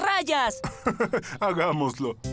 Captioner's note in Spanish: risas